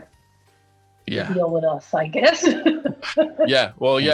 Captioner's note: laughs